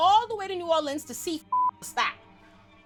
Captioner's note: beep